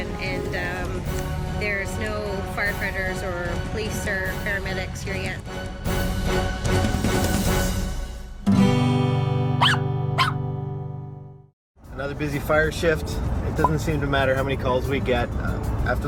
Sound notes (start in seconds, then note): 8.5 guitar strum; 9.6 dog barking